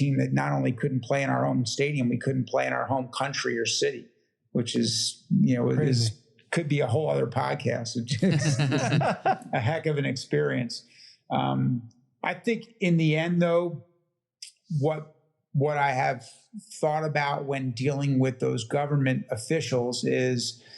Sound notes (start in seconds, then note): 9.6 laugh